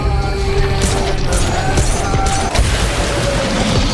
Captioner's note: gun firing